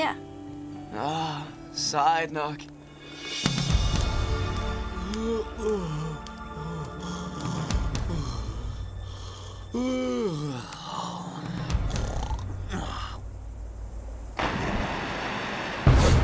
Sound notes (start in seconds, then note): 13.9 water splashing